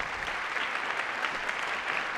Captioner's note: applause